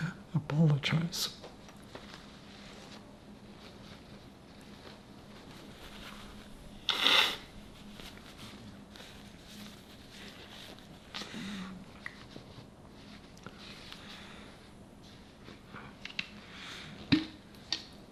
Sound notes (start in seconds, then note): 1.4 pauses 30 seconds; 6.8 wiping nose